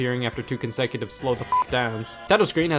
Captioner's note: beep